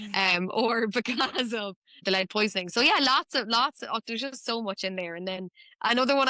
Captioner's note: chuckles